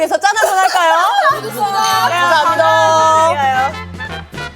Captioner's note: cheers